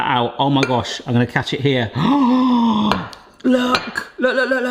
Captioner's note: gasps